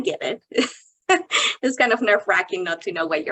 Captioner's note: chuckling